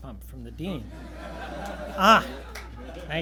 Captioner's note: laughter; gentle smacking sound